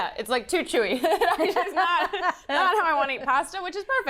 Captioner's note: laughs